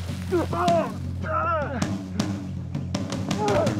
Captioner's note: yelling out